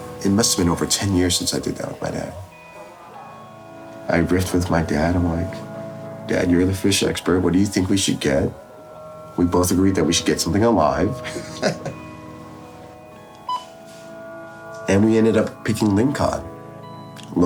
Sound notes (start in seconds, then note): 11.2 laughs; 12.6 gentle music; 13.4 machine beeps